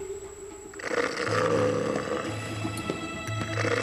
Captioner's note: snoring and growling